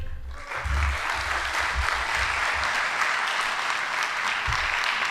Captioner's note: audience applauding